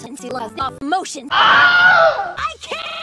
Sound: scream

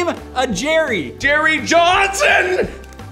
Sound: shock

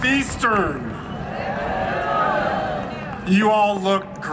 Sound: audience cheering

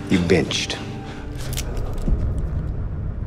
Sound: gun cocks; tense music

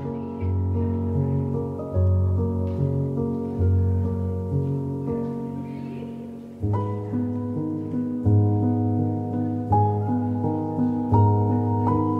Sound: soft background chatter; relaxing Romantic Piano Music

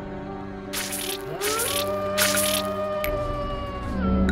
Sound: Big and Might be Bad Wolf's howl

